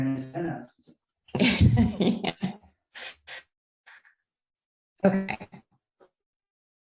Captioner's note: laughs